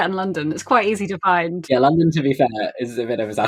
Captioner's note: laughing